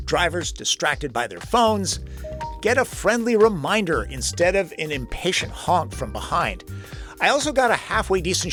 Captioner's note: beep